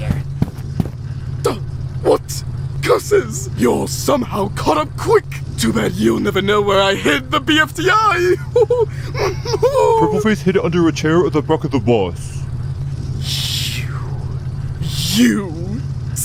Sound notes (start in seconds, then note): 8.1 evil laughter